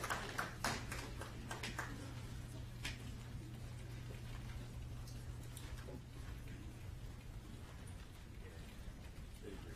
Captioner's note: applause